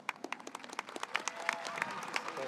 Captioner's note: audience applauds